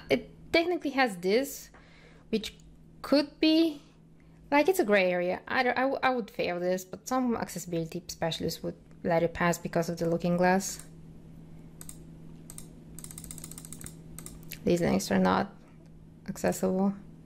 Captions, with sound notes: It technically has this, which could be like... it's a gray area. I don't - I would fail this but some accessibility specialists would let it pass because of the looking glass. (mouse clicking) These links are not accessible.